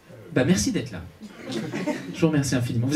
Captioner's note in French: rires public